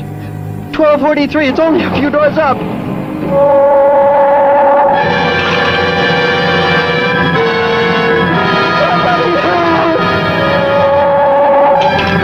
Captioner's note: gun humming